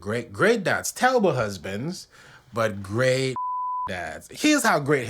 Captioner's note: beep